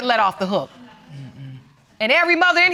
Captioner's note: audience murmuring in agreement